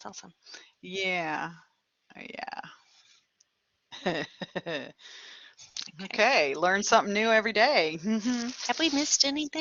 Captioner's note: laughter